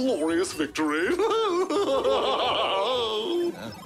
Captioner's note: laughs maniacally